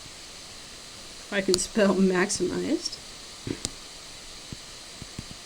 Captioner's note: laughs